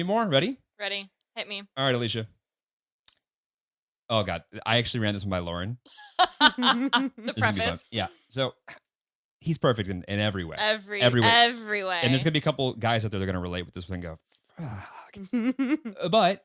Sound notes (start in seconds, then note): 5.9 laughs